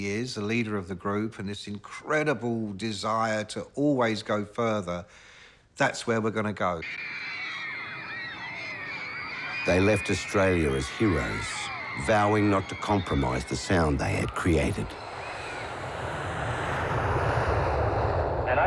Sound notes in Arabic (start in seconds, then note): 9.6 تصرخ الفتيات; 18.4 هدير الطائرة